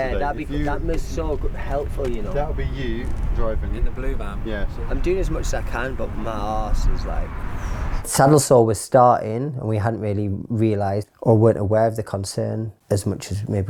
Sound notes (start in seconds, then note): 7.5 sighs